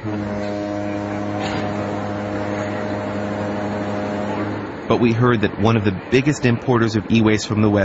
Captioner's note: boat horn